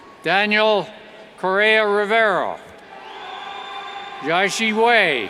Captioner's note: cheers; cheers and whistles